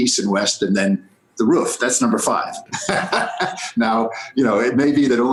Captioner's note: laughs